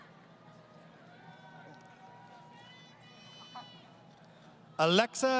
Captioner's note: crowd Cheering